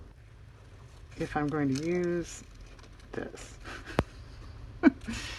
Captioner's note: laughs